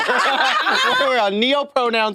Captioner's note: participants laughing